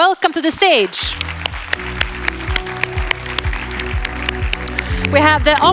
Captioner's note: audience applauds